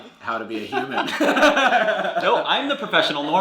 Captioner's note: laughs